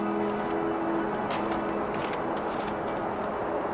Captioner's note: cars driving in the distance